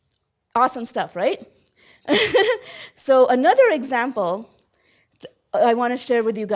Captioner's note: laugh